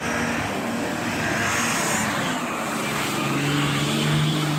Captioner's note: engine whirring